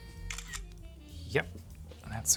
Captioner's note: camera shutters